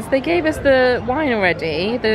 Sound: none

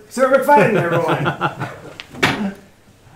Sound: laughing

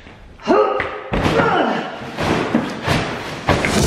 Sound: grunts

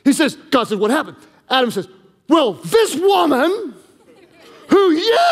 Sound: congregation laughing

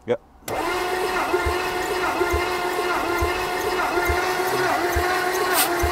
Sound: vehicle engine humming

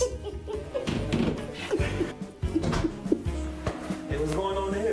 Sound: grandma laughing

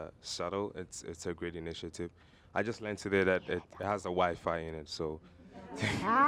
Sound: laughter

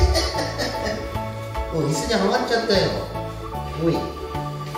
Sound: laughs

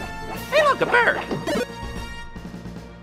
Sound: magical zap

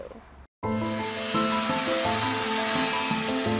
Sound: power tool buzzes; whimsical music

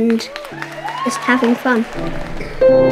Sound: audience clapping

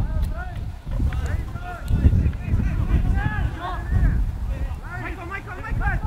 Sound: players talking and yelling

